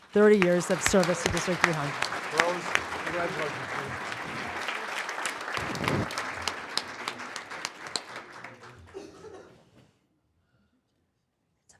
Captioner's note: applause